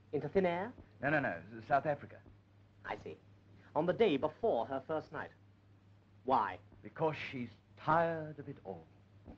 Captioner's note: none